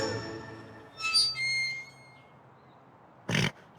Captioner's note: creak; snort